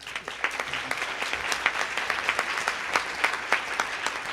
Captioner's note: group applauding